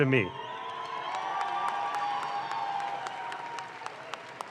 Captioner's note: audience claps